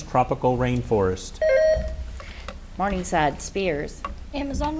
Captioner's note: buzzer beeps